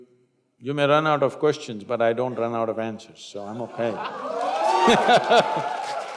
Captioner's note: laughter/Applause